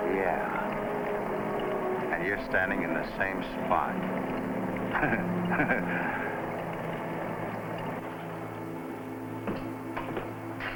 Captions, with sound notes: - Yeah, and you're standing in the same spot. (Jack laughs)